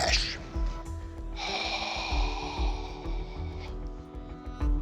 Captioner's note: sighs